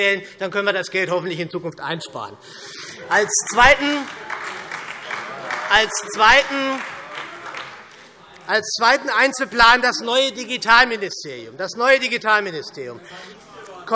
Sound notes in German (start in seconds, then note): 3.5 Beifall SPD und Freie Demokraten